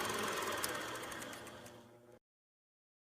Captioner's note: film stops